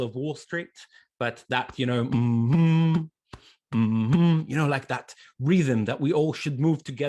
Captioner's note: hums